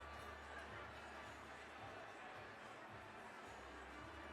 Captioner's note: crowd chatter